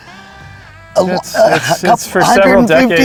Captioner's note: laughing